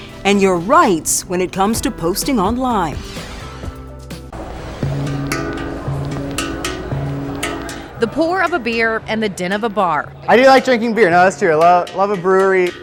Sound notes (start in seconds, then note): 3.0 logo whooshing; 4.2 soft music